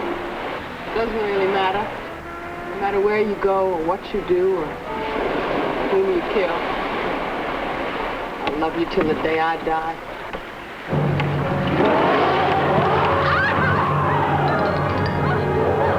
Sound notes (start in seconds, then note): 11.3 roaring; 13.4 screaming